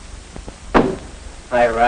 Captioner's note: door slams